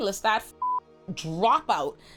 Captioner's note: beep